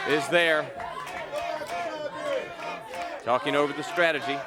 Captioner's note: crowd cheering